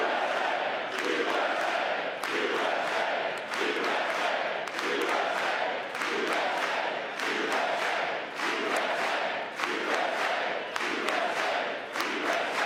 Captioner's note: cheering; chanting usa